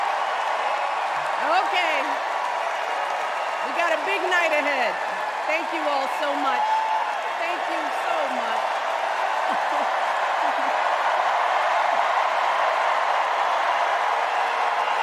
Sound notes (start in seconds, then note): 1.6 cheers and applause